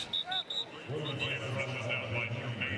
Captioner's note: whistle